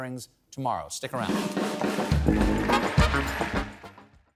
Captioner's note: applause